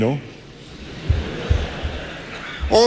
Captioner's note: laughter